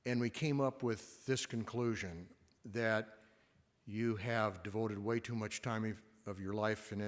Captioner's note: none